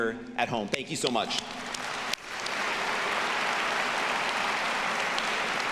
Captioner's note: audience applauding